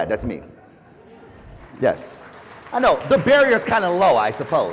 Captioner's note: applause